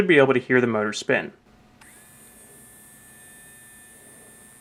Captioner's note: whirring noise